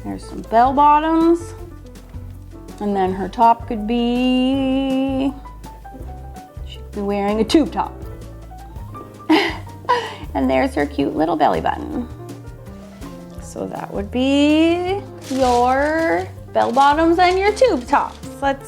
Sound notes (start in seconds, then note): 5.6 upbeat music; 9.3 laughs